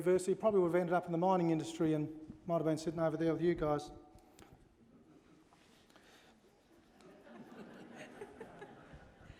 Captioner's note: laughter